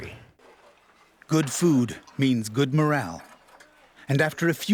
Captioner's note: voiceover